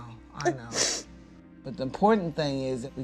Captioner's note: sobbing